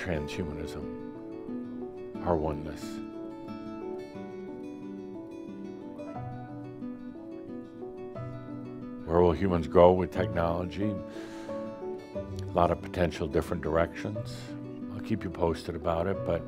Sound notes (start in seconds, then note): none